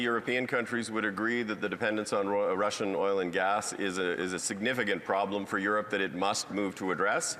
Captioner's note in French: voix de l'interprète